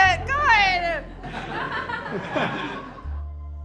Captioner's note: audience laughing; gentle music